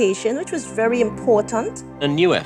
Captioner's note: soundbite of archived recording